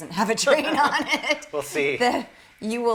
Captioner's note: laughter